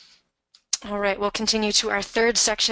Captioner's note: voiceover